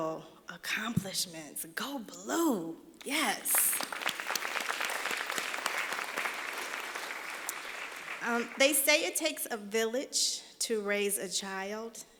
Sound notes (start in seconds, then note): 3.4 applause